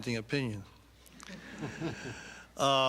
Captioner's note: laughter